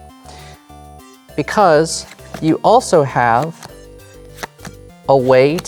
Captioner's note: cards slapping